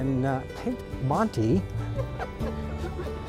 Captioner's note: laughter